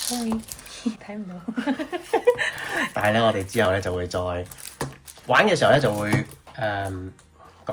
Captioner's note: laughter